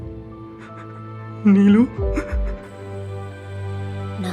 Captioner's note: crying